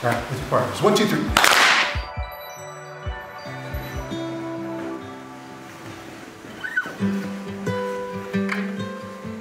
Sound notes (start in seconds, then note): 1.3 all clapping simultaneously; 2.5 warm music